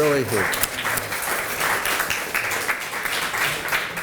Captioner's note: applause